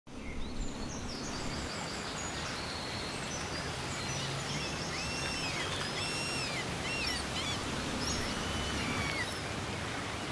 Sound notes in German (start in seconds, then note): 0.0 Vögel zwitschern; 4.9 Möwen schreien